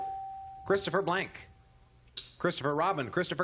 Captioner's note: ding